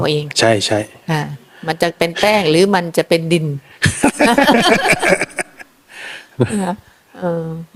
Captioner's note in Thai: เสียงหัวเราะ